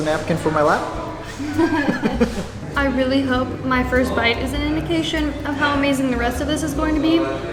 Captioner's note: laughter